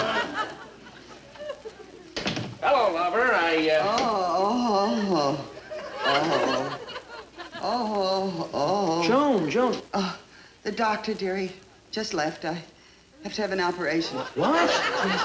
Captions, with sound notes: - Hello, lover, I, uh... (Joan moaning) (audience laughing) Joan, Joan! - The doctor, dear, he just left, I... I have to have an operation. - What? - Yes, I...